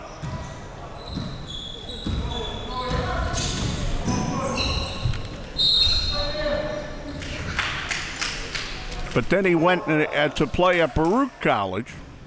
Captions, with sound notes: (whistle) But then he went to play at Baruch College.